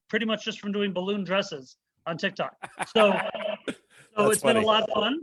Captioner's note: laughs